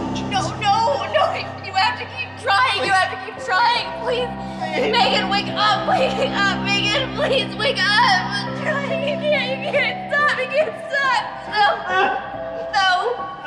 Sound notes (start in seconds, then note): 0.4 MRS. GRAHAM, echoing; 9.3 MRS. GRAHAM sobbing, pleading